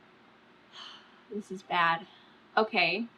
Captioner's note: sighs